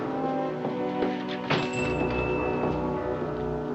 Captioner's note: door closing, bell chiming